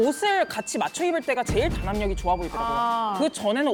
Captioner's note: proud sound effect